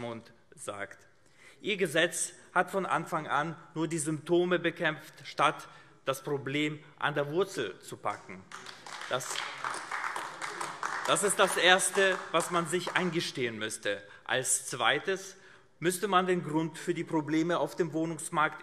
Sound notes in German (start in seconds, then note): 8.4 Beifall AfD